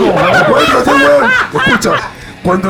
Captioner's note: laughs